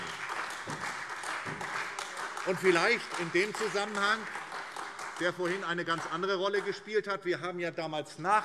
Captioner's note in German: Beifall SPD, Freie Demokraten und vereinzelt AfD